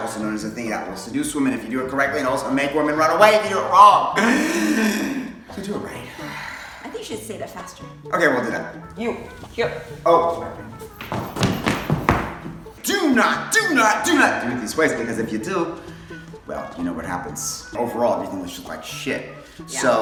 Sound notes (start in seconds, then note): 6.1 deep breath in; 8.7 stomping footsteps